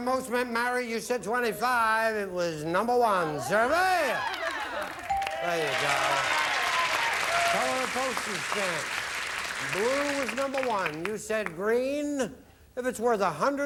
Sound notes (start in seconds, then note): 6.0 audience applauding